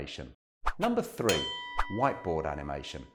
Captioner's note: bell rings